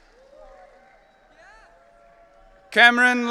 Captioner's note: audience cheering